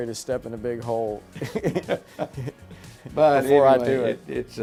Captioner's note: laughing